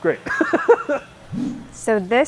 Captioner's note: laughing